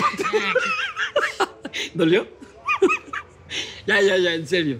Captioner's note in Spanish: Carcajada